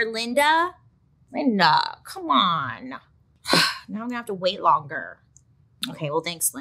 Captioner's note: sighs